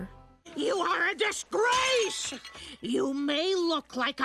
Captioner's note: shouting